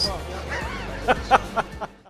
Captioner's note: laughter